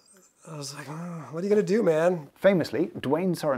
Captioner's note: sighs